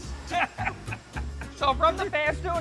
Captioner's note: laughing